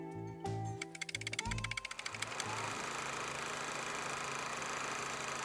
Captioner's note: old movie reel clicking